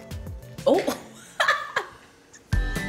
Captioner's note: laughs; upbeat music